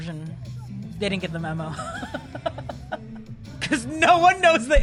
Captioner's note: laughs